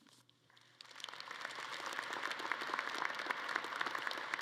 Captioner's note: audience claps